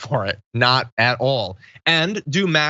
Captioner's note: laugh